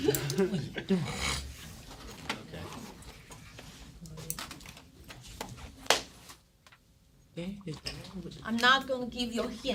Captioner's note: students murmur